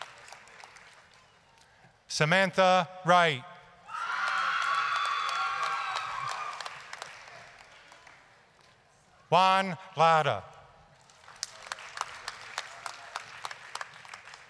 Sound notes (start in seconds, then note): 0.0 applause, cheering; 3.9 applause, screaming; 11.0 applause